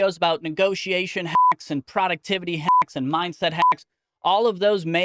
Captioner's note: beep